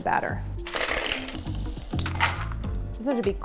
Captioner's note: ice clattering